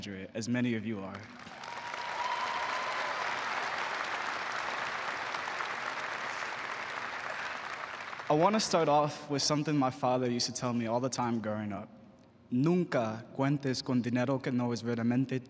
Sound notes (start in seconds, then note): 6.4 applause